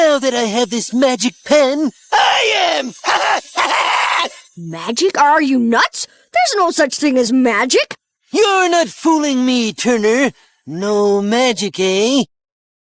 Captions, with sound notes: Now that I have this magic pen, I am! ( cackling ) Magic? Are you nuts? There's no such thing as magic. You're not fooling me, Turner. No magic, eh?